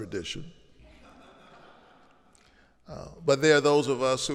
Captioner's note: audience laughing